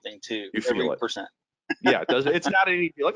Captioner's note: laughing